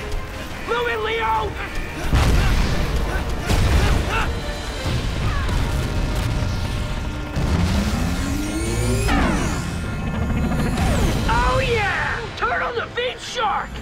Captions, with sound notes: Move it, Leo! [grunting] Oh, yeah. Turn on the beached shark.